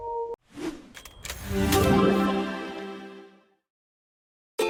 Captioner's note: dynamic sound